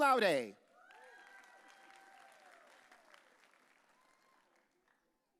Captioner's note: audience cheering